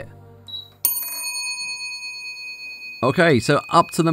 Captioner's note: beep, then ring